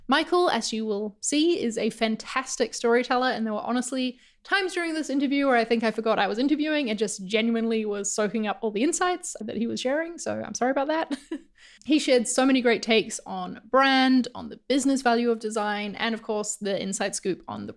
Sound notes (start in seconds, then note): 11.3 laughs